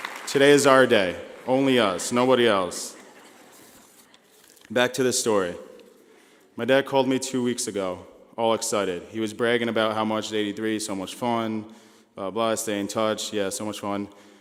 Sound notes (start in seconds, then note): 2.9 laughing